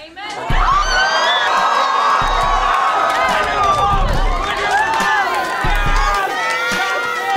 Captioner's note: crowd cheering; mellow hip hop music